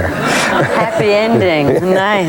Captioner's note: laughing